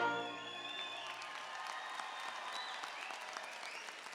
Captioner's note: audience applauding